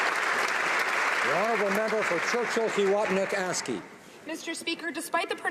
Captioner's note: some Applause